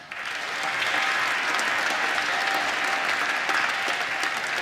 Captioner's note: applause